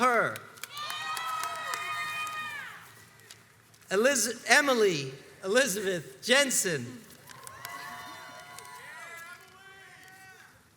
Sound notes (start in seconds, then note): 0.6 crowds cheers and applauds; 7.2 crowds cheers and applauds